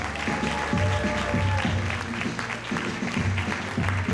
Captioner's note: audience applauding